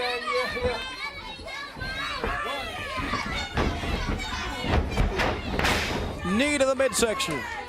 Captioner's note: crowd chatter